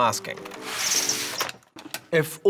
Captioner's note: whooshing